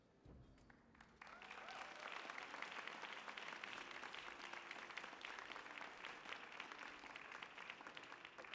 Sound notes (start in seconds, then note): 1.0 audience applauding